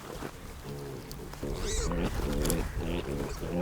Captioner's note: piglets grunting